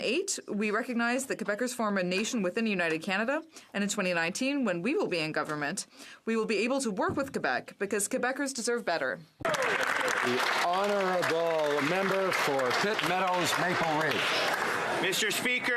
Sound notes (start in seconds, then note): 13.0 some Applause